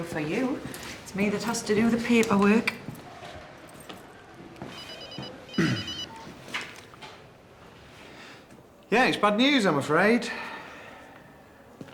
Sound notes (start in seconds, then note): 4.7 phone rings; 5.5 clears throat